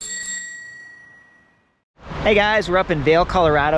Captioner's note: bike bell Ringing